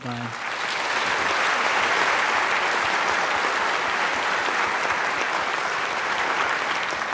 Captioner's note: applause